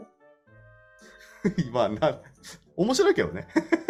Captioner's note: laugh